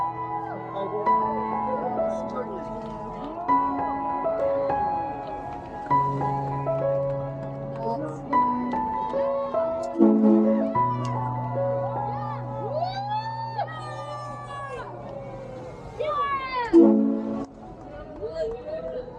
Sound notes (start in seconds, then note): 0.2 whooping and cheering; 9.9 ship's horn; 11.5 whooping and cheering; 16.6 ship's horn